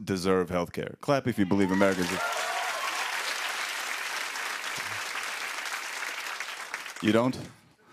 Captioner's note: cheers and applause